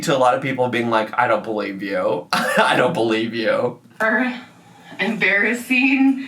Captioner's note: laughs